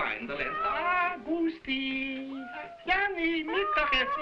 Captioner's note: cats meowing